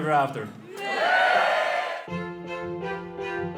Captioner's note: guests cheering; playful music